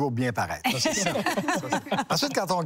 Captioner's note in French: rires